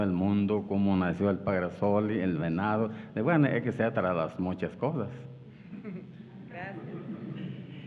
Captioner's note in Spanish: habla en wixárika